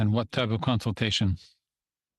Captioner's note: speaking in French